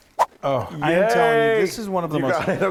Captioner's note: quick swipe